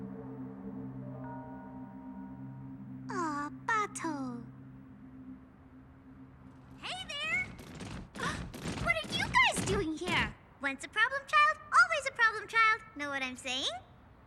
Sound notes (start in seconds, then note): 8.1 gasps